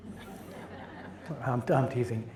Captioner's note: audience chuckles